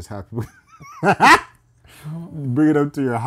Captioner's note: laughing